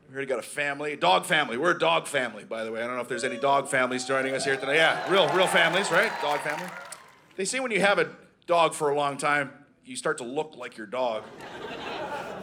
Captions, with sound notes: We got a family - dog family. We're a dog family, by the way. I don't know if there's any dog families joining us here today. Yeah, real families, right? (Audience cheering) Dog families. They say when you have a dog for a long time, you start to look like your dog. (Audience laughing)